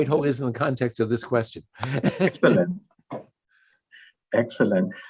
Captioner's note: chuckles